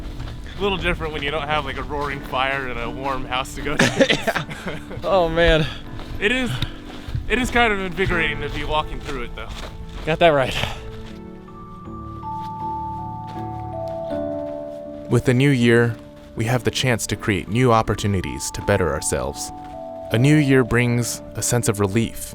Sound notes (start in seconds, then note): 3.7 both laugh; 11.9 low music plays